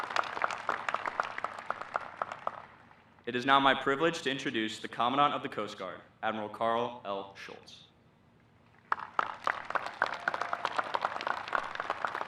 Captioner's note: applause